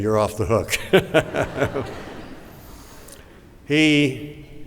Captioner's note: laughter